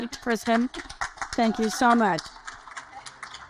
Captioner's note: audience applaud